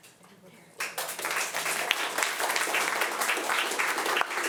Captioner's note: audience applauding